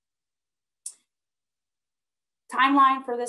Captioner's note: clicking